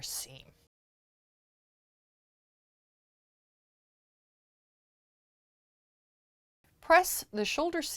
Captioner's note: no Sound Present